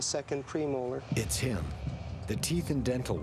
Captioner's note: voiceover